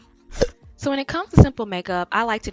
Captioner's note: cork popping